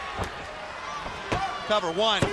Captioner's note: crowd chatter